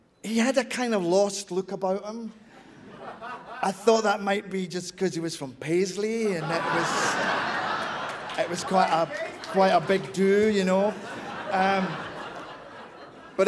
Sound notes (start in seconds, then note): 7.5 laughter